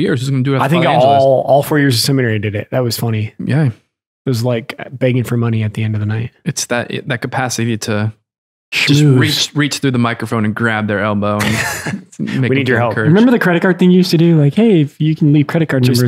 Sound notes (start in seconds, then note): 11.3 Father Angelus laughs